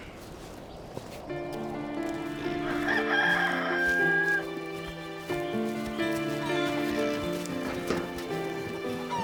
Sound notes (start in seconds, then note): 2.3 cock crowing